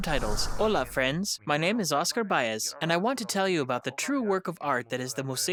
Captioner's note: speaks foreign language